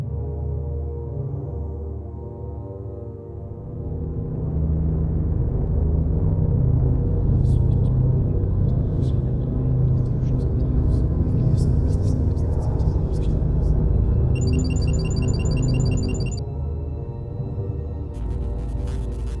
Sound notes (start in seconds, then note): 8.6 whispering Sounds; 14.3 alarm Sounds